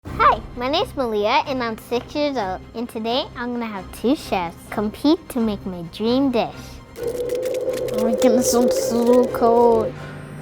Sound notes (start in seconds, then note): 6.9 wind howling; 10.2 dramatic instrumental flourish